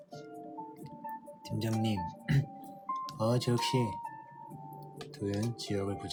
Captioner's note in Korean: 목을 가다듬음